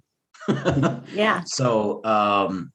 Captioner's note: laughs